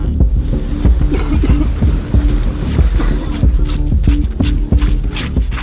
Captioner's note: mildly foreboding music; person coughing